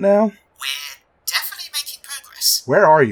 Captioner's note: Thomas radio voice